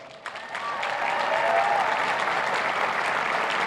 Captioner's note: cheers and applause